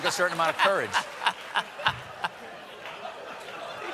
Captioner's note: laughter